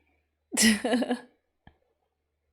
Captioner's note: laughs